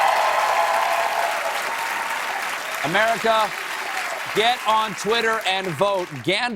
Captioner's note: cheers and applause